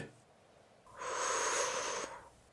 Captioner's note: inhale